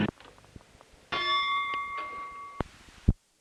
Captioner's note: bell Sound